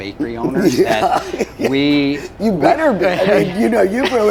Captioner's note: chuckles